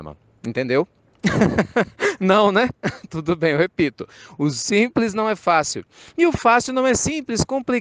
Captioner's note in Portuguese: Risos